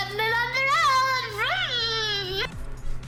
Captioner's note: vroom